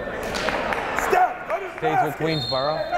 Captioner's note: yelling